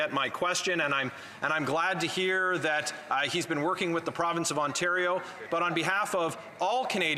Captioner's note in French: voix de l'interprète